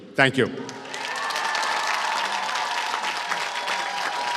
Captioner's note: applause